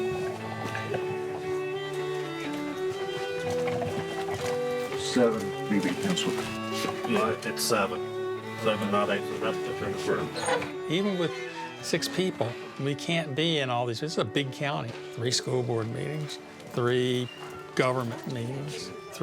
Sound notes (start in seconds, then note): 0.3 gentle atmospheric music; 6.1 mutters; 6.5 gentle atmospheric music; 10.2 mutters